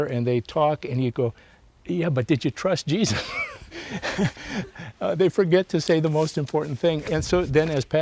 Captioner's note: laughs